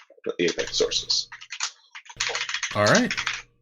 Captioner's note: keyboard keys clanking